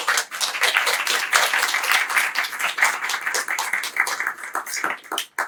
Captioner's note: applause